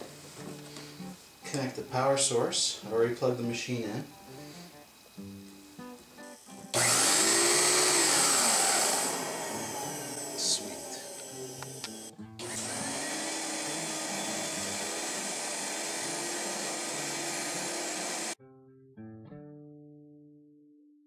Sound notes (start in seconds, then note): 6.4 roller brush whirs; 10.8 vacuum runs